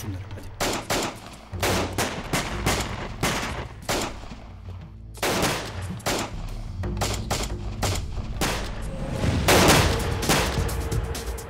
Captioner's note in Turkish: si̇lah sesleri̇